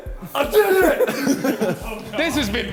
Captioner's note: men laughing